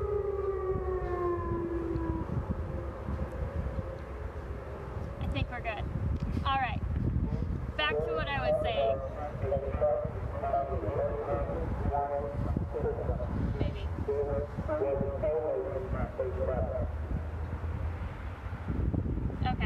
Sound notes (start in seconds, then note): 5.3 sirens stop; 12.3 voice over outdoor loudspeaker